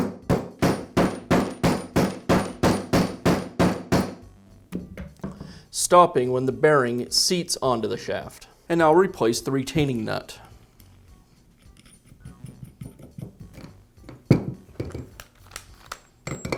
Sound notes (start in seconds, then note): 0.0 hammering